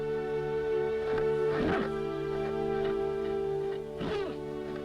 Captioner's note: horse whinnying